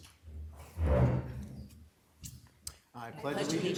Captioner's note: chair scraping